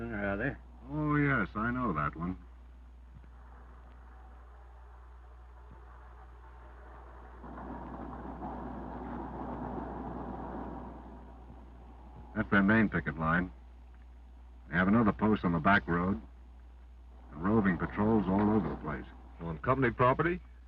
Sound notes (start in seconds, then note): 6.4 car engine revving